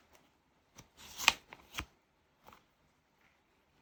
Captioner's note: drawing cards